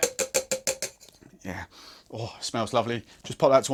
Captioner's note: inhaling loudly